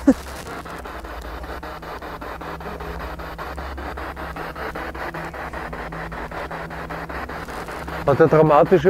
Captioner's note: noise of the spiritbox in the background